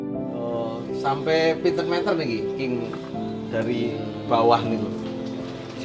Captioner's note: Speaking Javanese